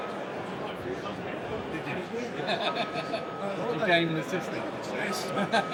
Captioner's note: laughs